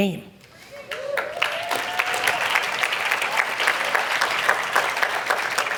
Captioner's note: audience cheer and applaud